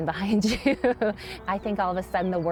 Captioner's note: chuckles